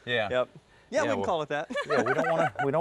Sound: laughs

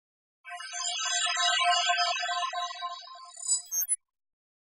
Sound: electronic chiming

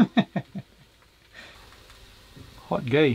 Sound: laughs

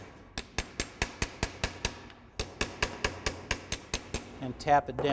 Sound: hammer banging

